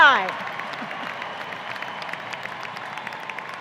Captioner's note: applause